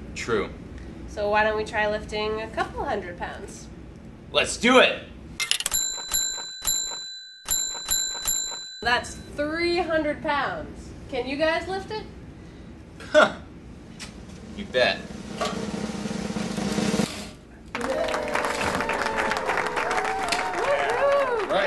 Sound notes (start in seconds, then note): 5.5 bell dinging; 14.3 drum roll; 17.7 applause and cheers